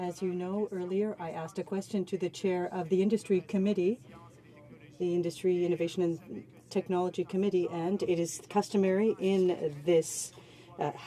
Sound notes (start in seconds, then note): 2.9 speaking French